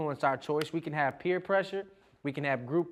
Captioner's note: hand smacking